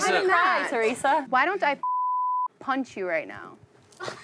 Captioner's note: beep